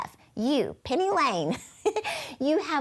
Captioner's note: chuckles